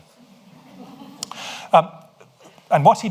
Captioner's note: audience laughs